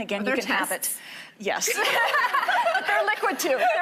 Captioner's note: laughing